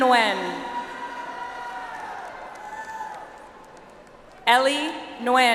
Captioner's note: audience applauds